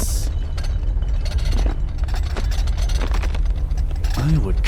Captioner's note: dishes rattling